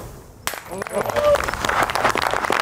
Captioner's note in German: Applaus, Jubelrufe